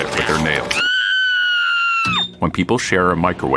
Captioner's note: woman screaming